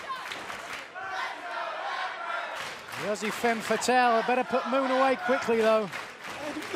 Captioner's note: fans chanting